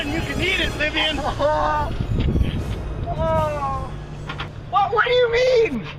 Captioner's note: Alex cries